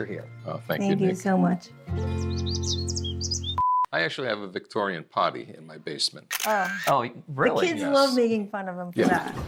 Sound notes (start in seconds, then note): 2.0 birds chirping; 3.5 beeping; 6.3 camera clicking